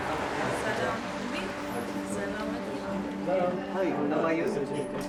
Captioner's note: group chattering